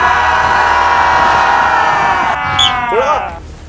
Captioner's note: shouting for motivation